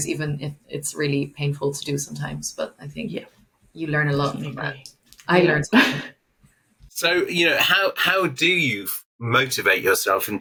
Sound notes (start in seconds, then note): 6.3 laughs